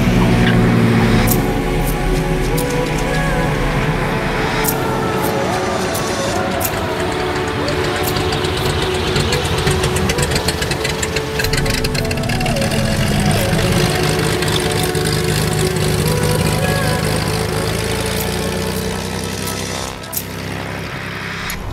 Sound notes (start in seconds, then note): 0.1 sound of Bonanza landing; 6.9 sounds of Beechcraft Bonanza engine taxi past camera